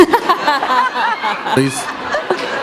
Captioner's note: laughter